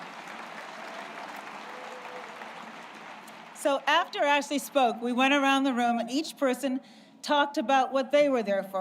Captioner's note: applause